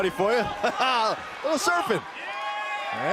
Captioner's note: laughs